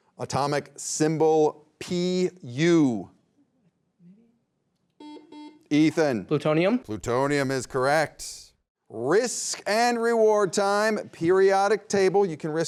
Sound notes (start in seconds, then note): 5.0 beep